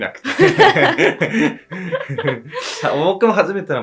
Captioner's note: laughs